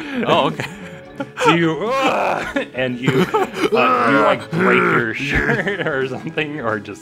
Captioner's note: various grunting noises; laughter